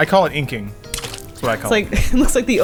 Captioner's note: splash